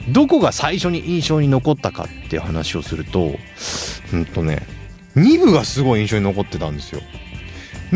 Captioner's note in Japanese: 鼻息